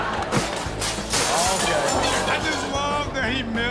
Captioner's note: audience laughing; glass shattering